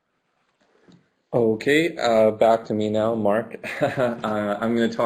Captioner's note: laughs